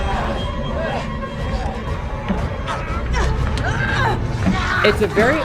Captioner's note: mellow upbeat music; fighters grunting